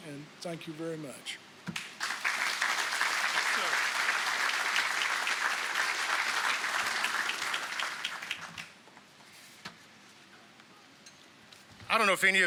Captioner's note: applause